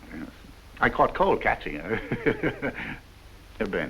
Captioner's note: laughs